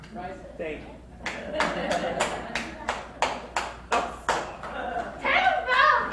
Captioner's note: crowd laughs, Claps